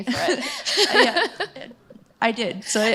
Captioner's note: laughter